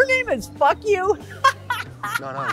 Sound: laughing

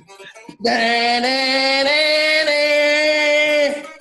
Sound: imitates guitar

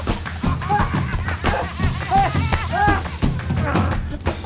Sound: Lowly Sr. laughs hysterically

